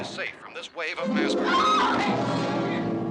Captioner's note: screams; Barbra continues screaming